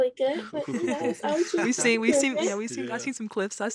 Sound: chuckles

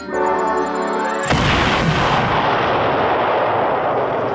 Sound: explosion

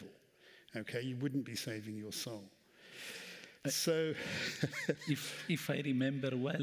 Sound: laughs

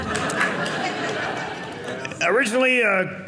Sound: audience laughing

